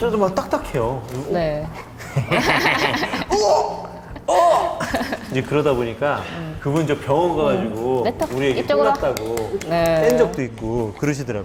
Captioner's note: lauging